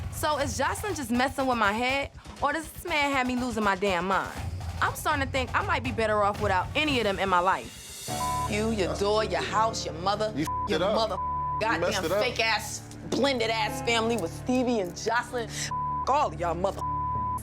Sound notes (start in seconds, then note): 10.4 beep; 15.6 beep